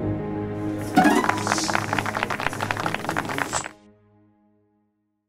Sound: applause

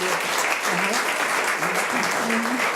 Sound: audience applauds

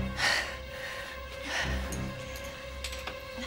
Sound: panting

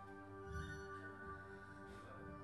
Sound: soft and low

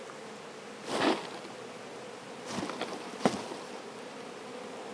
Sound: bees clatter

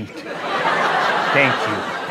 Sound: laughter

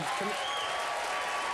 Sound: applause

